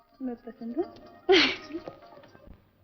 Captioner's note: chuckles